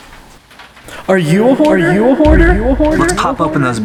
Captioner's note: echoes